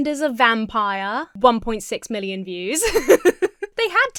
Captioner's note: Emma laughs